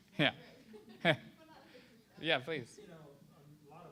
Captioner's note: laughs